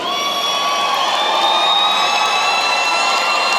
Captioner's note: cheering & applause